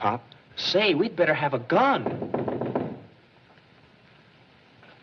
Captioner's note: knocking